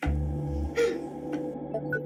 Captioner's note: sobs